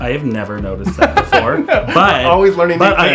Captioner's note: laughs